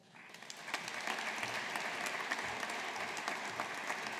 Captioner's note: audience applauding